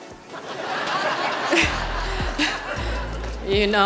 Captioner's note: audience laughing